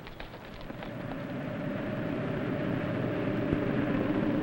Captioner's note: strong wind howls